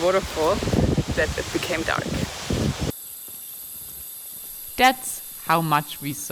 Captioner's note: crickets chirping